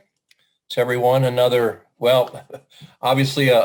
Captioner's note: laughs